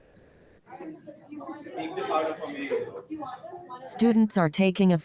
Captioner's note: people chatter indistinctly